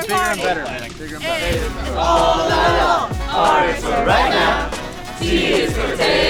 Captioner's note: crowd cheers energetically; crowd cheers loudly